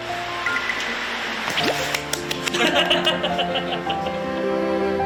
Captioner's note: imma just clap